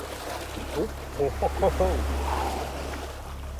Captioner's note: guys laugh